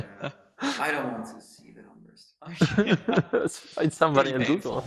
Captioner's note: laughing